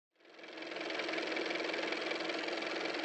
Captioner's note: car motor